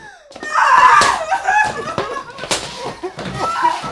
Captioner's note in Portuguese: gritos